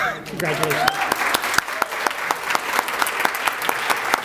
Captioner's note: applause